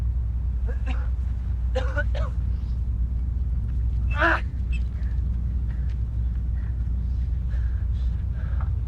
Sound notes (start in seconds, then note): 1.7 Percival coughs; 4.1 grunts